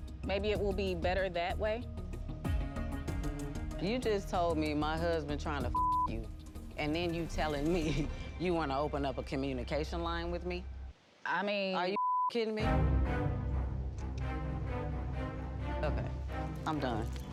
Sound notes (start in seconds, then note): 5.7 beep; 7.9 laughs; 11.9 beep; 12.6 dramatic music